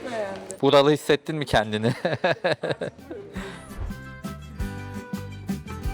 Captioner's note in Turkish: kahkaha